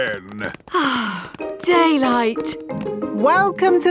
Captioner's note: sighs